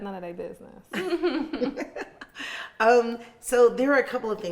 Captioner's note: laughing